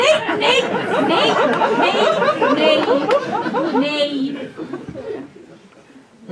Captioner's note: laughter